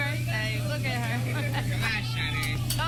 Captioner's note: laughs